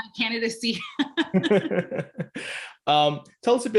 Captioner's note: laughing